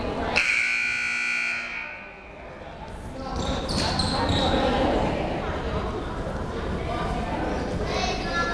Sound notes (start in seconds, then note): 0.4 buzzer rings